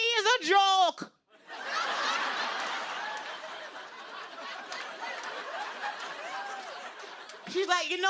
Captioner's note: laughter